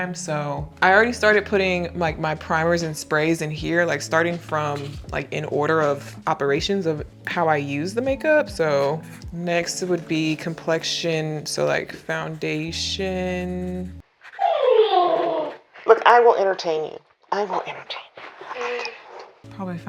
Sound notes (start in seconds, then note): 14.6 Winnie whining